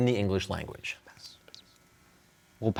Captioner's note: whispering